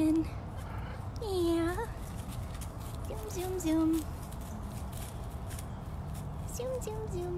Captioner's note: footsteps